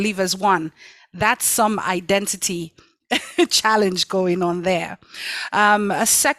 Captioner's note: laughs